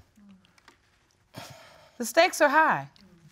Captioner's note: sighs